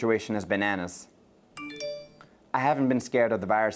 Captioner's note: phone notification chimes